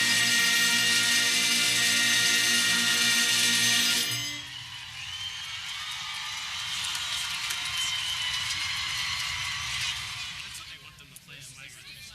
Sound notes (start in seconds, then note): 5.6 audience cheering